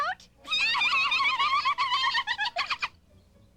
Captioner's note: giggling